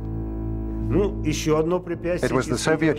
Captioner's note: speaking Russian